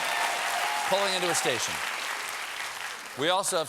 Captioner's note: cheers and applause